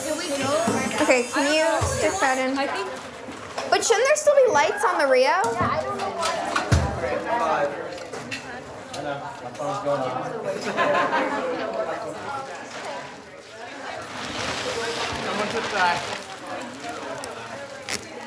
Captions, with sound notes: Okay. Can you stick that in? But shouldn't there still be lights on the RIO? (plastic crumpling)